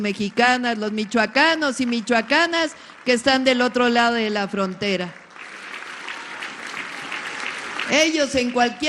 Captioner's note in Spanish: aplausos